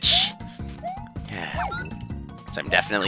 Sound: sigh

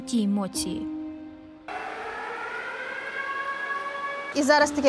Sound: sound of the air raid siren

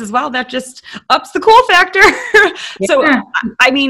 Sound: laughing

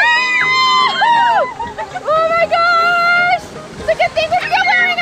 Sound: yells

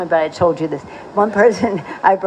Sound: laughter

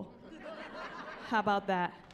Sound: laughing

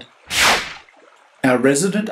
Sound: swish

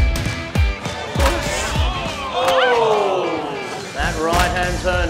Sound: crowd groans

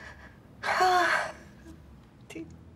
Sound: exhales

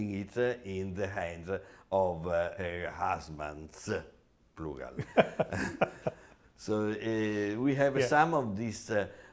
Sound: laughs

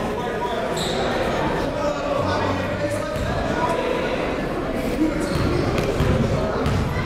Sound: players chattering and crowds yelling

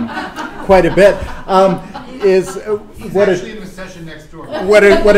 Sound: laughter

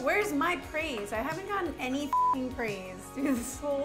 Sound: beep; laughs

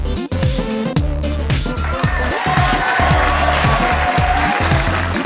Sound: applause, cheering

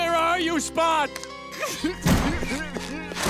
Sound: crying

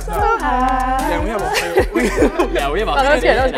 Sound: laughs

